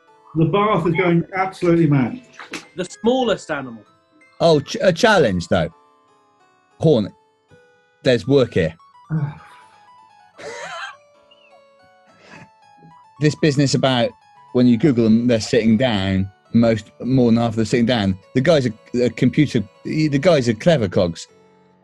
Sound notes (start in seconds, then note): 10.2 sniggering; 10.4 sighs